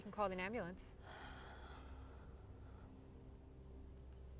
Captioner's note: Julie sighs